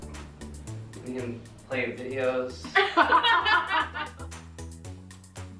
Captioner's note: everyone laughing; funky upbeat music continues